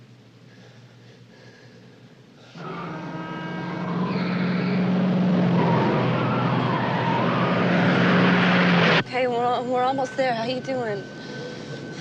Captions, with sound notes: [tires screeching] - Okay, we're almost there. How you doing?